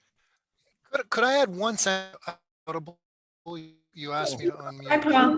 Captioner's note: audio distortion